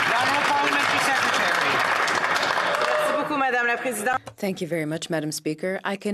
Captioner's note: some Applause